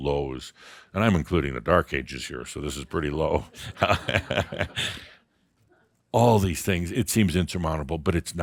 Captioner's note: Adamus chuckles